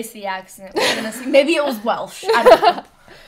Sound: laughs

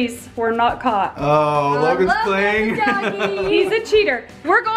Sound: laughing

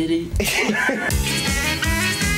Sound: laughs; upbeat music

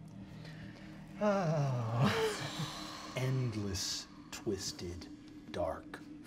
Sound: sighing, stressed

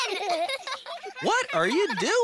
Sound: laughing

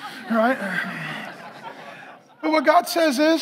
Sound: congregation laughing

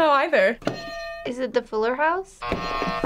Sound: bell rings

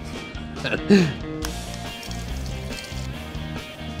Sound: chuckles

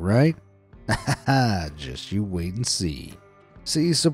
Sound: laughs

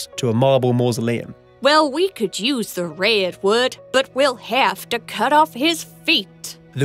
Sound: decca, american accent

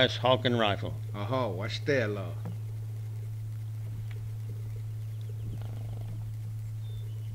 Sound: native American speaking foreign language

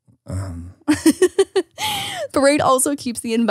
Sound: laughs

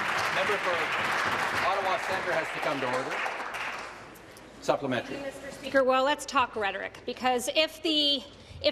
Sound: applause

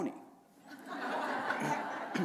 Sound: laughter

